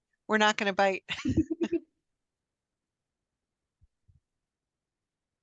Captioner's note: laughter